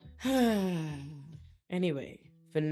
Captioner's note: sighs